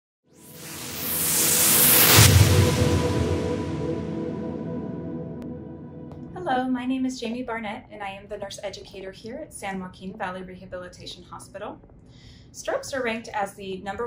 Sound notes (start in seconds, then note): 0.5 whooshing